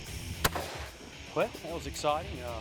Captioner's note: loud gunshot